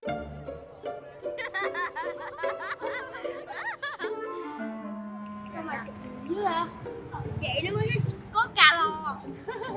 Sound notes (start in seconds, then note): 1.3 children laughing and chattering